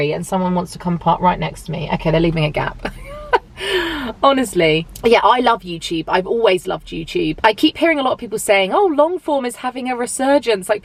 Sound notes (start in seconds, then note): 2.8 chuckles